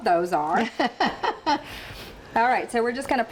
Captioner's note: laughing